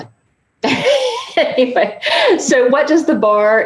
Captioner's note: laughing